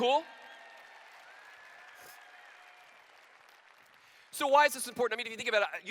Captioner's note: applause